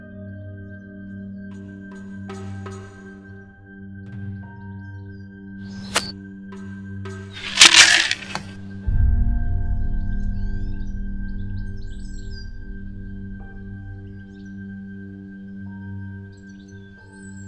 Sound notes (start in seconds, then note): 7.3 corn rattles; 12.0 slow music